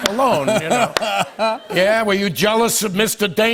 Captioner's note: laughter